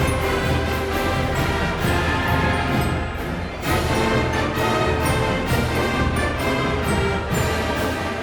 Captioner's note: band playing; crowd cheering